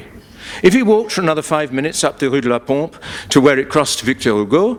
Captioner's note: none